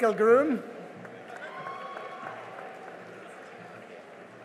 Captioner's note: cheering and applause